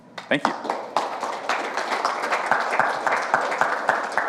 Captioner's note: audience applauds